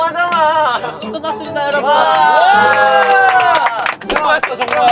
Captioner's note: screaam; applause